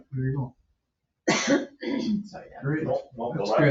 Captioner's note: coughing